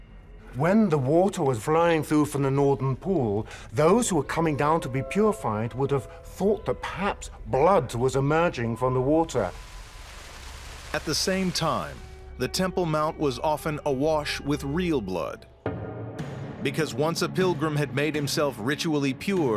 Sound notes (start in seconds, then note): 9.3 water whooshing